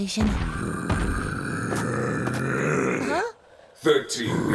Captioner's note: Smurf 13 growling